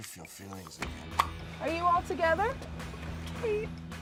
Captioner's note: pop